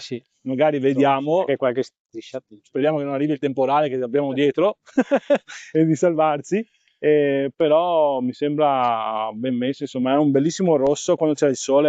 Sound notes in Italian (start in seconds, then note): 4.8 risate